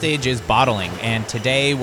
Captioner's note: glass clanking